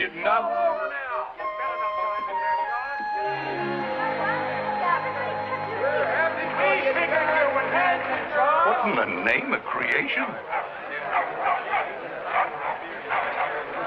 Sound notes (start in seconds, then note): 3.4 agitated chatter; 11.0 dog barking